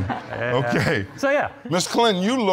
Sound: chuckles

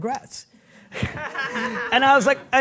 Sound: audience members laughing

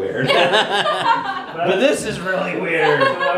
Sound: laughing

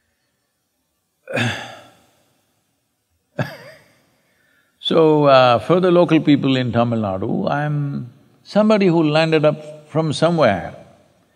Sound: laughs

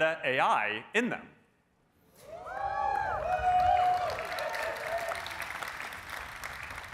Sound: cheering

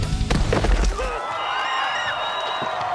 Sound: cheering

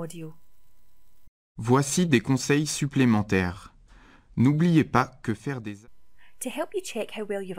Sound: FRENCH AUDIO: Voici des conseils supplémentaires. N'oubliez pas que faire des

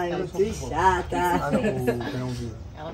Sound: laughs

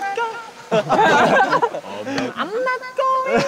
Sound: laughing

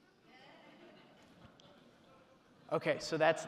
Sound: audience laughing

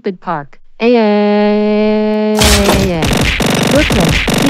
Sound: scream

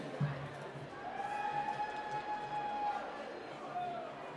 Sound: cheering

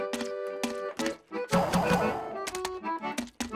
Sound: popping

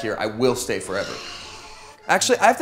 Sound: sighs

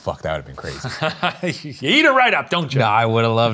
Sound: laughing

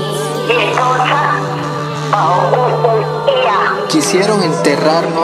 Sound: speaking in language other than English

